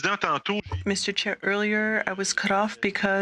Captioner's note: speaking French